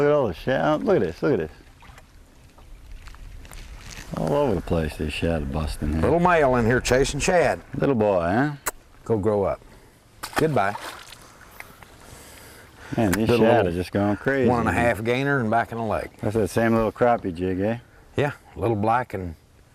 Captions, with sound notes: Look at this..look at this.. [little splashing] all over the place these shad are busting here. little male in here chasing shad. little boy huh? go grow up! goodbye [splash] these shad are going crazy a half gainer and back in the lake. same little crappie jig hey? little black and.....